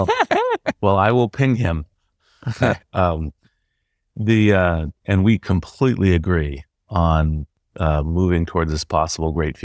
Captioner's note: laugh; laugh